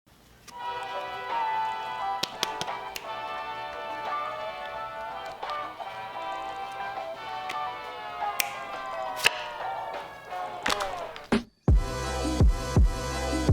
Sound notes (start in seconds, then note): 1.2 relaxed electronic music; 1.9 fingers snap